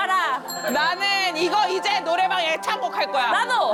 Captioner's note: TJ Karaoke 33650 input sound